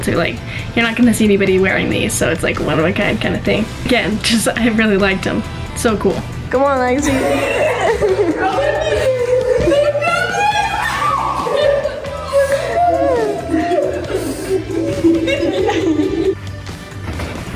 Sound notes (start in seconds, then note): 8.0 friends laughing; 9.2 screams; 14.6 girls laughing